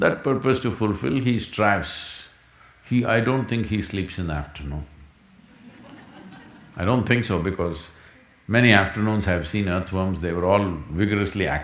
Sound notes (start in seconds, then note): 5.4 laughter